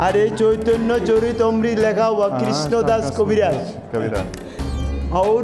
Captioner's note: non-english speech